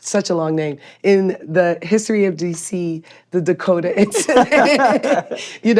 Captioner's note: laughs